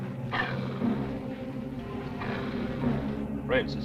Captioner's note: dog growling